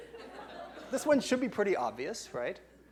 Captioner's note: laughing